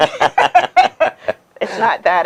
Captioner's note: both laughing